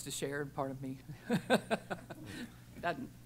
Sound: laughter

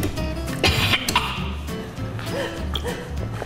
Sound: coughing

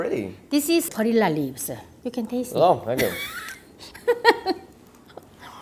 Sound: laughs

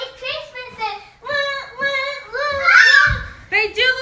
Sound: screams

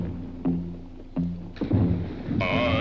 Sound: water splashes

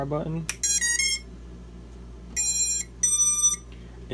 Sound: alarm rings

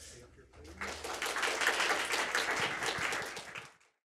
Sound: applause

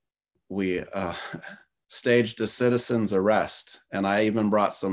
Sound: chuckles

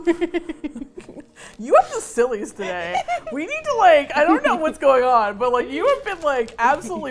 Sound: laughs; laughing; giggles

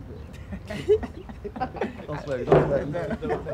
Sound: all laughing

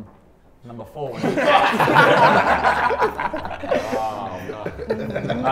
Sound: everyone laughs

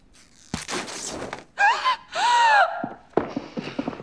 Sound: gasps

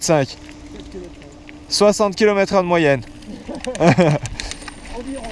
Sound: laughs

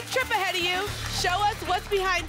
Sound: applause and cheering

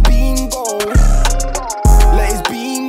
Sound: brrrr

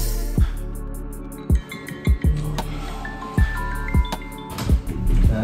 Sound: Forest app chimes

